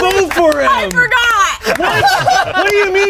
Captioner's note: everyone laughs